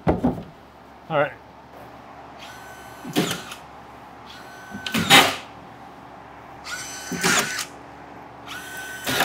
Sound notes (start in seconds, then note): 2.9 nail gun thumps